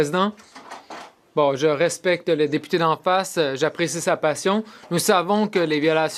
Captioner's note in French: voix de l'interprète